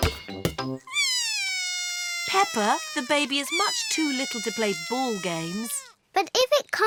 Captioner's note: bawls